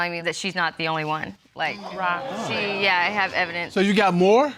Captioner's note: audience exclaims